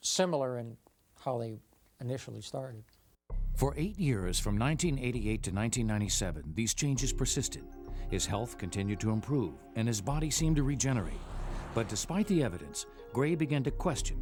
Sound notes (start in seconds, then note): 3.8 voiceover